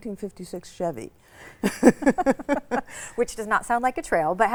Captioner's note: laugh